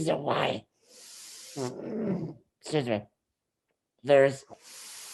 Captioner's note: clears throat